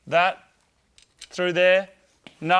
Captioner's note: metallic clattering